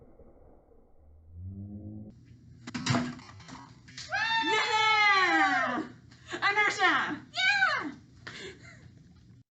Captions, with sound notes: (objects thuds) (both cheering) Yeah! Inertia! - Yeah!